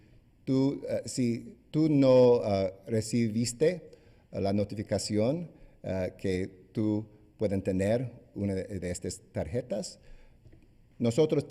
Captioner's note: speaking spanish